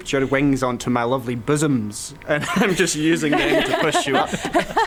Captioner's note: laughing